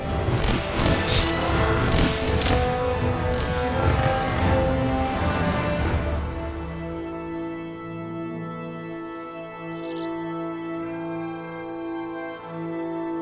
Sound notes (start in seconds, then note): none